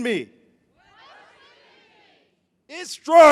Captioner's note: crowd